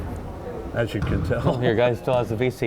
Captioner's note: laughing